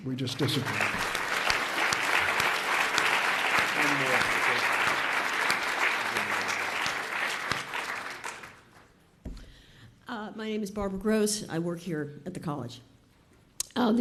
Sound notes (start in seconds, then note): 0.2 audience applauds